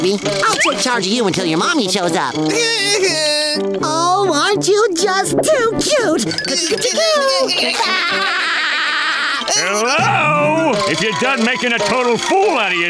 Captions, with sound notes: I'll take charge of you until your mommy shows up. [laughing] Oh, aren't you just too cute? [laughing] Hello? If you're done making a total fool out of yourself,